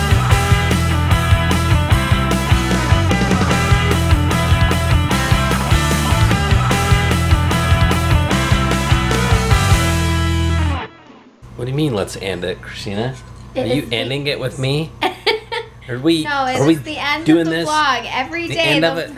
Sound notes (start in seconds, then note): 15.0 laughs